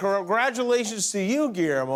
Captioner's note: laughter